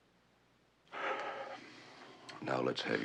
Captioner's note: iç çekiyor